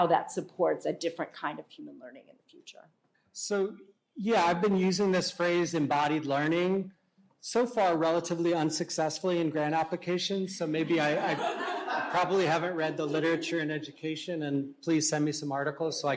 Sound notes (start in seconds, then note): 10.6 laughter